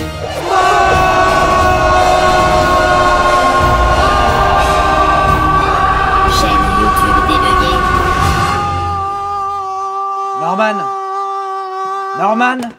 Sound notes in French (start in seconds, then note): 6.0 Voix robotique